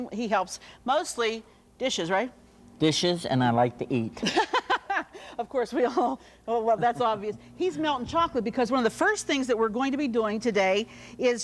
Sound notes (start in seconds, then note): 6.6 laughs